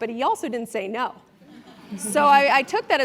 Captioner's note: laugh